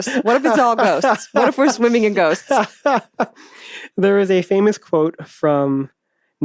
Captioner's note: laughs